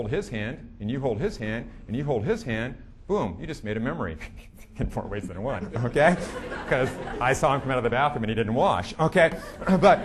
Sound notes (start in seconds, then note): 5.2 giggling; 5.4 audience laughing